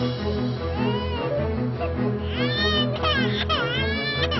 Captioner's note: baby crying